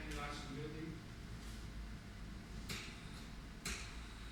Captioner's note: speaking in foreign language